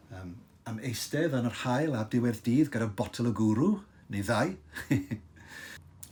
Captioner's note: he laughs